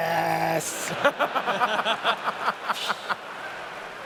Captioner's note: laughter